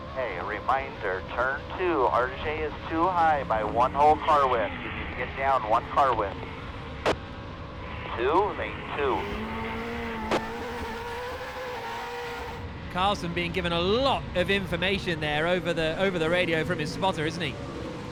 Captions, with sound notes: Hey, a reminder, turn two, RJ is too high by one whole car length. You need to get down one car length. Two, maybe two. [TRUCK ENGINE REVVING] Carlson being given a lot of information there over the radio from his spotter, isn't he?